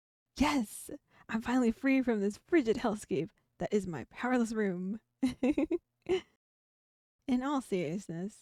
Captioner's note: laugh